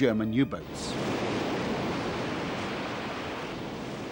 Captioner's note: waves crashing